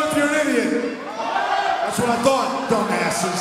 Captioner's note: crowd